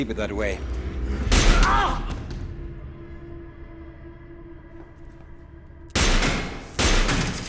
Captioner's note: Armen shouts; gun firing